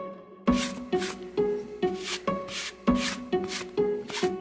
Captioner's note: fabric swish